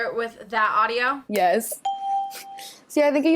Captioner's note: ding